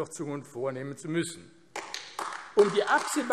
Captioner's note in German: Beifall AfD